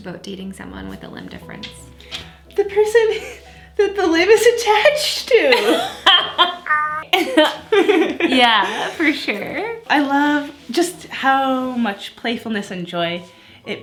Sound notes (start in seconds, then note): 5.6 laughs